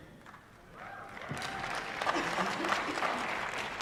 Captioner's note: applause